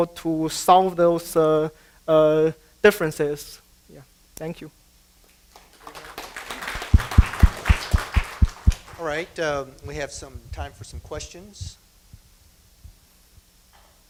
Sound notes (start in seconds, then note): 5.5 applause